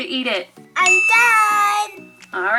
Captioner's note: ding